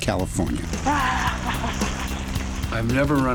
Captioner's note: laughter